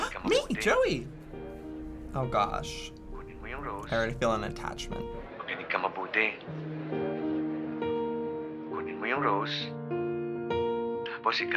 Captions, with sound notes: - (gasps) Me, Joey. Oh gosh. I already feel an attachment. (man speaking Filipino)